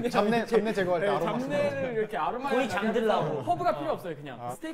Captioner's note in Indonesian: sambil tertawa